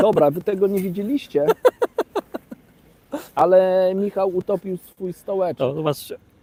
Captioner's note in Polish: śmiech